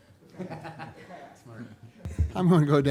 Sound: laughs

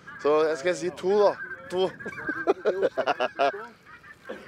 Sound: giggles

